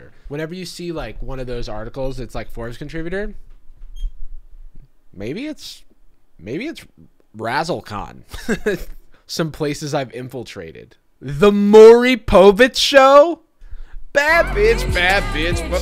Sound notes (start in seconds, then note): 8.1 laughing